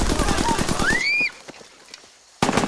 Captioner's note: gunfire, screaming